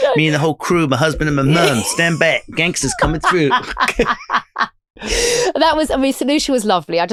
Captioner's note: laughing